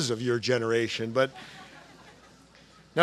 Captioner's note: laughter